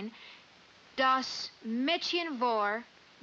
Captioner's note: speaking in German